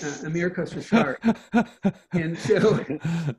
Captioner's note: laughs